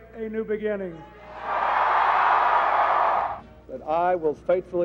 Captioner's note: cheers